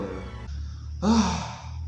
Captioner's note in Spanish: suspiro